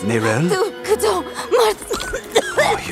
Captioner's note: chanting and coughing